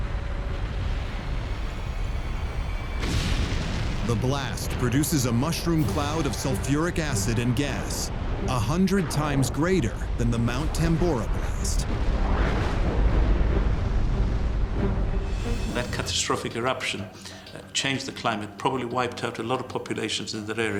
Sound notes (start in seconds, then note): 0.1 eerie music; 11.6 deep rumble; 11.6 violent thunder